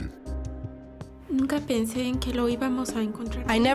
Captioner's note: speaking spanish